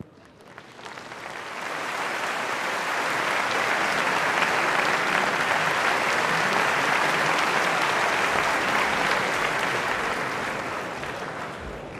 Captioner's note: applause